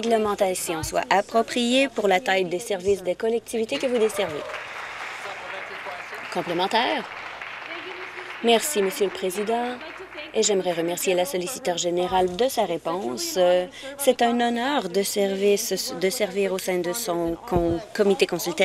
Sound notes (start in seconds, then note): 6.3 applause